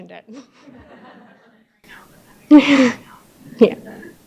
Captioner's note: audience laughing